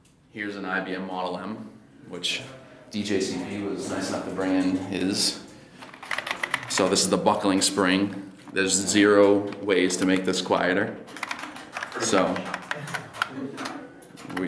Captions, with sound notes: Here's an IBM Model M, which, djcp was nice enough to bring in his. So this is the buckling spring. There's zero ways to make this quieter. (keys clacking)